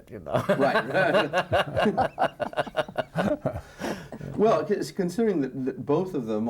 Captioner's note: laughing